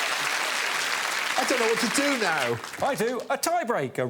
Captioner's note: audience applauding